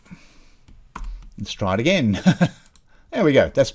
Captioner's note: laughing